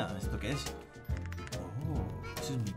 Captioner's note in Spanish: Sorprendido